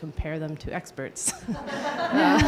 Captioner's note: laughing